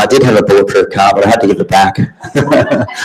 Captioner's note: laughing